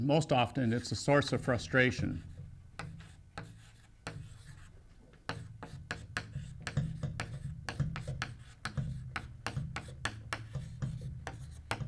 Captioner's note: chalk sounds